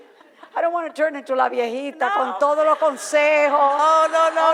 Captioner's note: foreign language